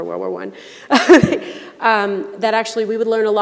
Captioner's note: laughing